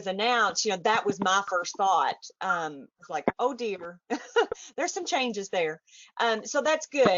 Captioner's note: chuckles